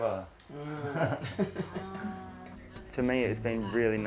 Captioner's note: laughter